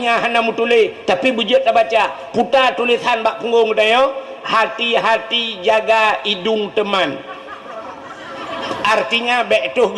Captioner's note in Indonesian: tertawa